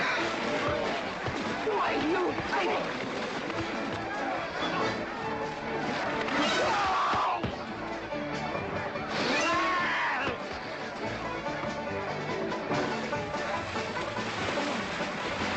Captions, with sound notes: (EXCLAIMING) Why, you fink! (SCREAMING) (SCREAMING)